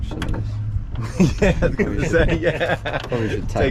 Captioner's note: laughs